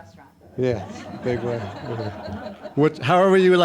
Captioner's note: audience laughing